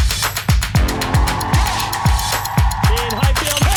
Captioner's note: crowd cheering